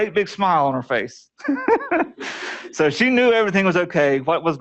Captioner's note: laughter